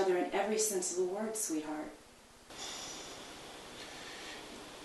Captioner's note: sigh